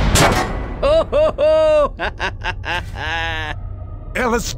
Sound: laughs

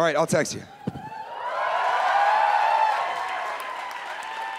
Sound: cheering

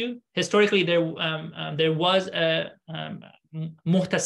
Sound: speaking arabic

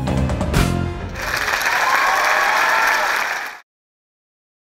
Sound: audience applauding

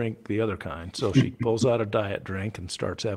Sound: chuckles

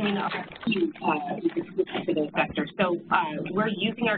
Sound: chattering voices

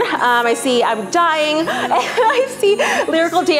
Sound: laughs

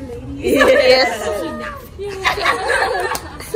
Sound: giggles

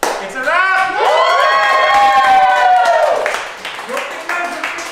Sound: loud cheering

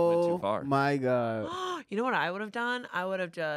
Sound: gasps

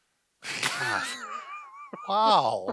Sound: laughs loudly

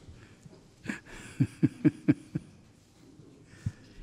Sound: laughing

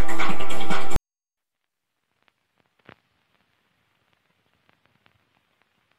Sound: old film static

